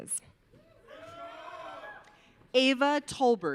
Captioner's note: audience cheering